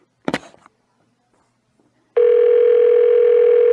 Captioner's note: phone still ringing